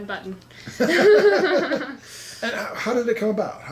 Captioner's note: laughs